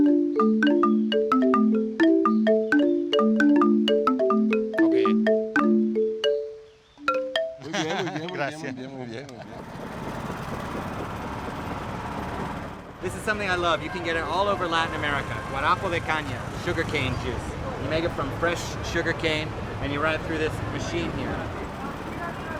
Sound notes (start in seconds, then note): 0.0 playing marimba; 7.6 laughs